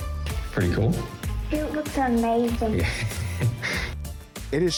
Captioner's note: chuckles